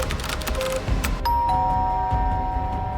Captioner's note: keyboard clacking; doorbell rings